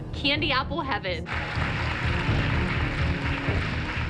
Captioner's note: applause